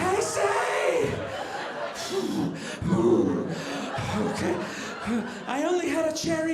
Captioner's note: gasping for breathe